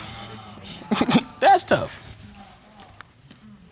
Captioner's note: chuckles